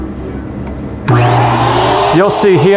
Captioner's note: machine whirring